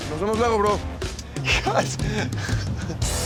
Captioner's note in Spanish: Risas